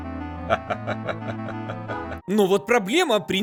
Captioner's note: laughs